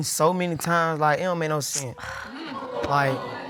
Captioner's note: scoffs